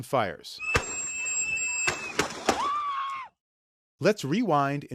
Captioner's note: gunfire